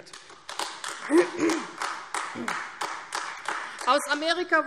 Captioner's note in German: Beifall AfD